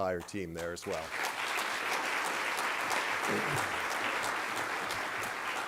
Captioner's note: applause